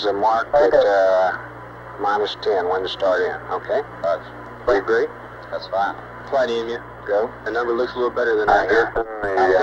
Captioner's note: mission Control Audio